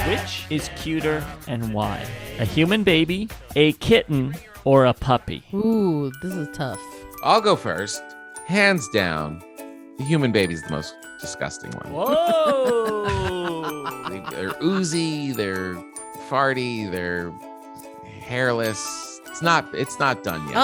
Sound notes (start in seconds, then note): 7.9 gentle music; 12.0 laughing